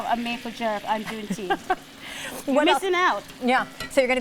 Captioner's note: laughs